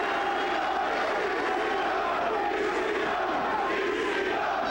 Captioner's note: crowd chanting